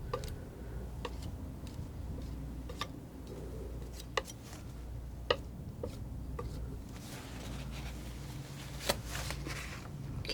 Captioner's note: tapping